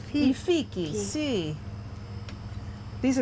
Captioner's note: speaking Italian